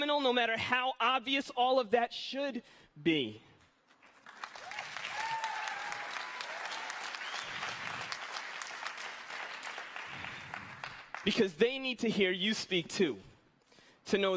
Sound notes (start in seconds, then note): 4.0 audience applauding